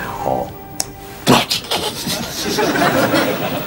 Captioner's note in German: Kichern leise